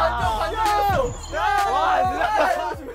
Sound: dying of laughter

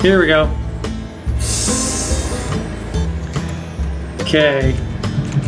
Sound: steam hissing

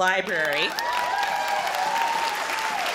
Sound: audience cheers

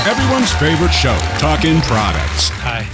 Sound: audience applauds

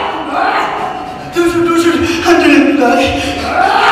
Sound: wakes up and gasps!

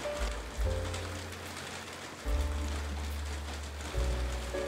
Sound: sound of rain

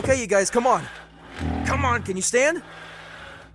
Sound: roar

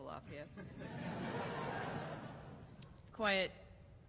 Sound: laughter

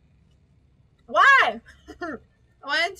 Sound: laughs

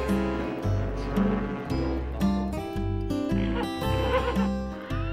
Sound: steamboat horn blaring; horse whinnying

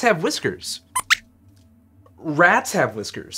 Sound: squeaks squeaks

